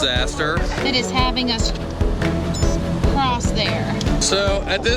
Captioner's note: beep